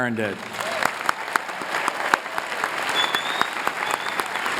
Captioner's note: applause